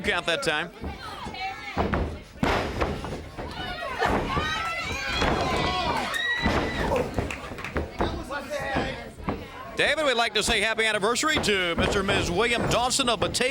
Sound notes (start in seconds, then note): 2.3 crowd chatter